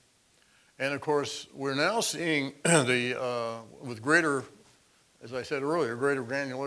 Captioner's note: cough